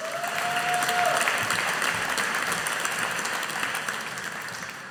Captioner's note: audience applauding